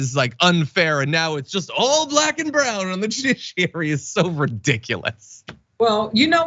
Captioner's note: laugh